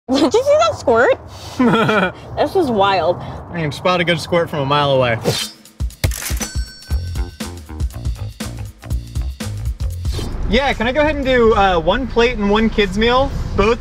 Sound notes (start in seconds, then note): 1.5 man laughing; 6.5 soft beat music